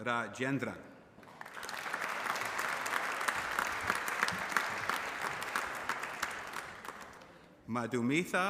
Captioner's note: applause